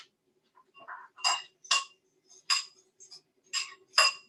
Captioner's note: fork clinking